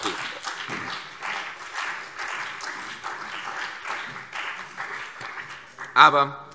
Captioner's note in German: Beifall CDU und BÜNDNIS 90/DIE GRÜNEN